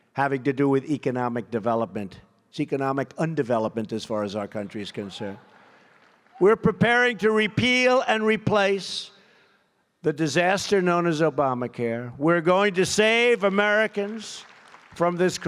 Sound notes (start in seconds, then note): 13.3 applause